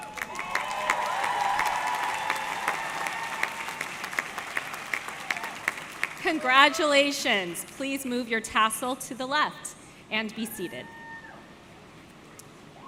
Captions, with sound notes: (audience cheering) (audience clapping) - Congratulations. Please move your tassel to the left and be seated.